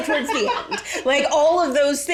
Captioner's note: laugh